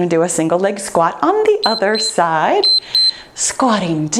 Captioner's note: timer beeps